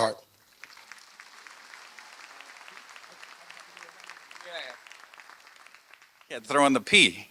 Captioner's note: applause